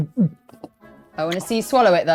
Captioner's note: gulping